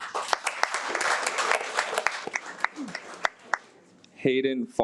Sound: audience applauds

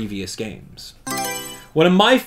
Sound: Mario Selection Sound

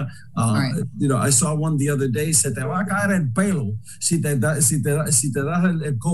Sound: speaking foreign language

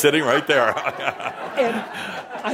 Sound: laughter

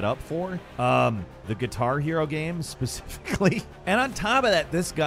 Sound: laughs

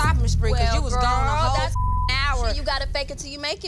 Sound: beep sound

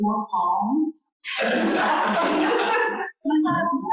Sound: laughter

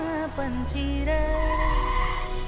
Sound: car pulling up

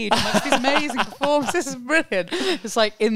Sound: laughing

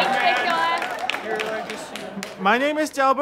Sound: audience laughter

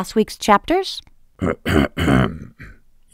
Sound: throat clears

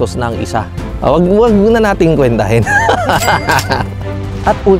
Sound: laughs

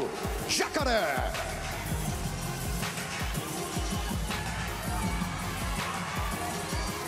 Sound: speaking foreign language

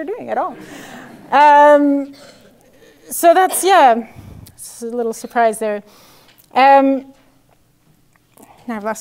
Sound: laugh

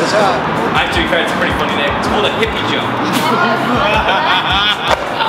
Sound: laughter

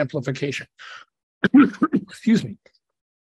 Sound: coughs

